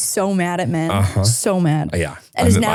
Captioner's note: laughing